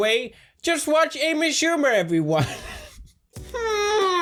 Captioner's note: laughs at own joke